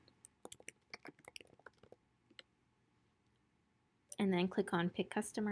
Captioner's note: typing